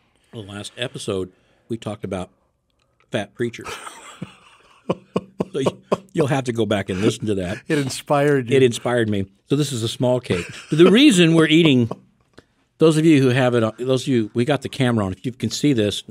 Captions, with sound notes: the last episode, we talked about fat preachers. (hosts laugh) So you'll have to go back and listen to that. - It inspired you. - It inspired me. So this is a small cake. The reason we're eating, those of you who have it on, we got the camera on, if you can see this.